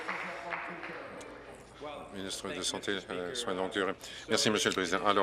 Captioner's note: applause